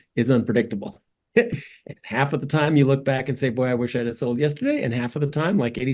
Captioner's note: laugh